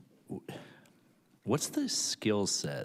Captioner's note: sighs